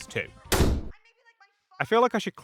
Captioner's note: door slam as parents continue to argue in background